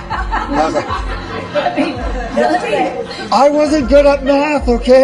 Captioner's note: group laughing